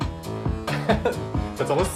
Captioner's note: laughing